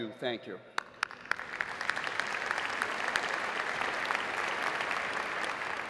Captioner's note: audience applauding